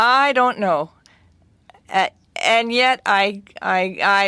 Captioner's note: speaking French